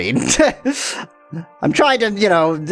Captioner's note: laughs